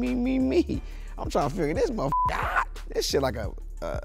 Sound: beep

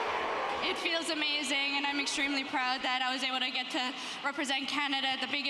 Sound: cheers and Applause

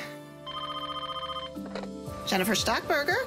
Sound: phone ringing

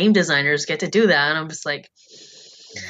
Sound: sigh

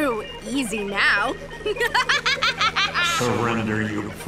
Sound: cackles

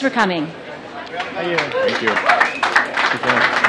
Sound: applause

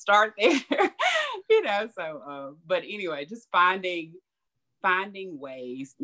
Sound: laughs

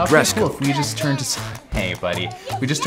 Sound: child screaming

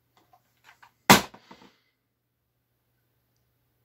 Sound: game case thud

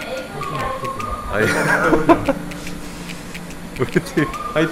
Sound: speechless laughter again

